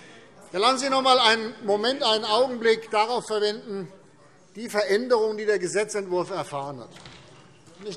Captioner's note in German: none